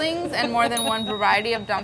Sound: buzzer pinging

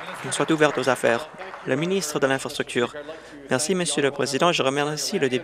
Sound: applause

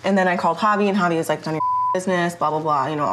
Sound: beep

